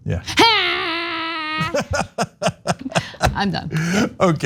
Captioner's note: laugh